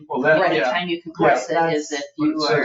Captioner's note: people chattering